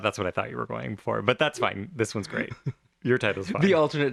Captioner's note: laugh